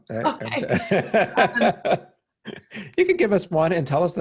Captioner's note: laughing